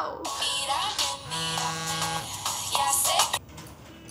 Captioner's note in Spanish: Suena un celular